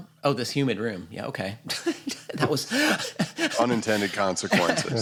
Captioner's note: laughs